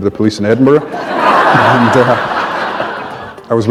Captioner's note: laughter